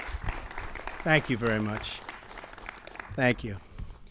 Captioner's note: applause